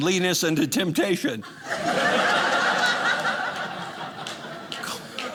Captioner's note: audience laughing